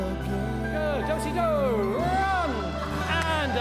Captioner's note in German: Rufe des Choreografen